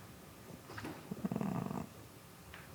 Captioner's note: grumbles